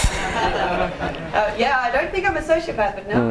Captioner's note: laughing